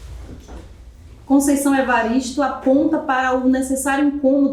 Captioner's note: speaking portuguese